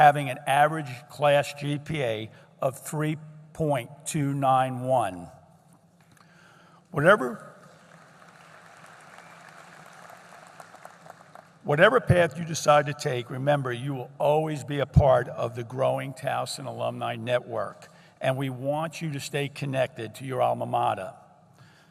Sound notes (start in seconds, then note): 7.6 applause